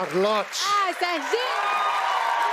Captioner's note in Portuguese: aplausos